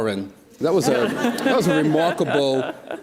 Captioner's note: audience laughs